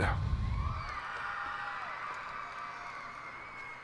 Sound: cheers and applause

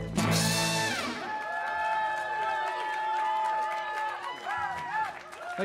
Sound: gritos; shouting

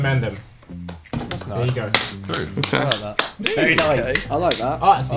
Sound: students applaud

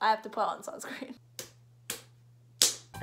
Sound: slap

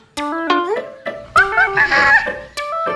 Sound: monkeys laugh

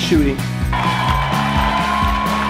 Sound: cheering

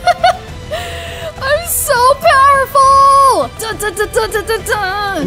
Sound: laughs

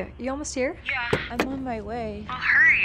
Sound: car door opens

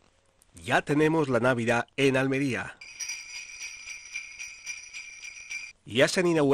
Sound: bells ringing

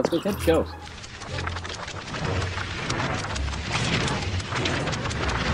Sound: pages flipping

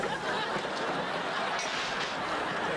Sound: crash

